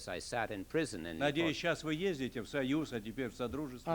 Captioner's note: non-english speech